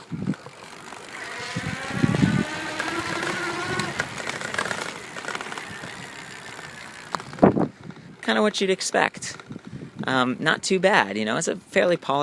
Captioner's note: motor whirring